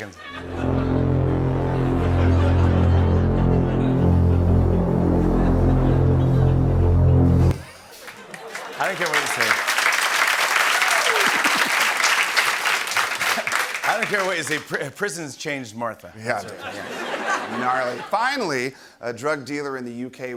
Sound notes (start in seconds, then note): 0.3 sinister music plays; 10.2 applause